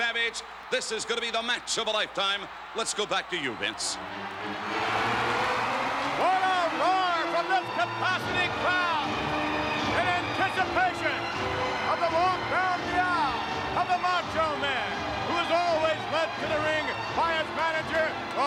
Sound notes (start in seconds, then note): 4.0 audience cheering; 4.0 upbeat music